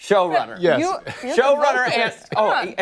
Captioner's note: laughter